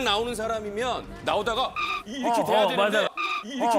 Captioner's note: shocked